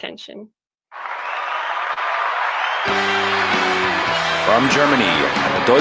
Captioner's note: applause